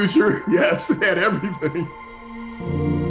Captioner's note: laughing